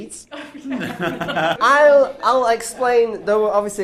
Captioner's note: laughing